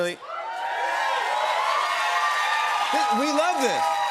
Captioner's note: cheers and applause